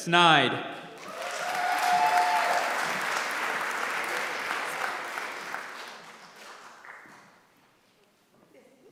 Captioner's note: applause